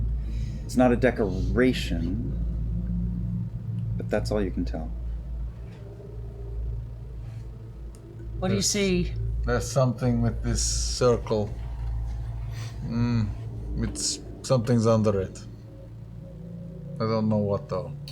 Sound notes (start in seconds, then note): none